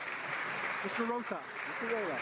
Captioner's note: cheering and Applause